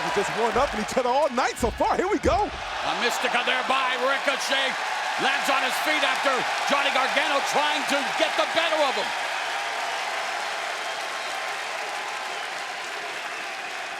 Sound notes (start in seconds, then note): 9.9 crowd cheers